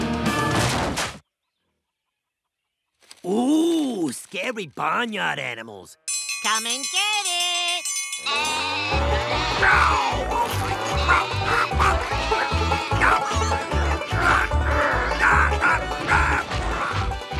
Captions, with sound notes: Ooh, scary barnyard animals. -Come and get it! -(TRIANGLE DINNER BELL RINGING) Ow! (GROANING AND GRUNTING) Ahhh!